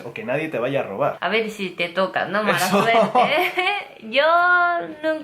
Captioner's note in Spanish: ríe